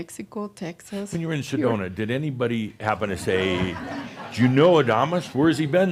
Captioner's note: laughter